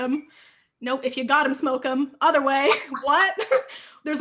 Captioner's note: laughing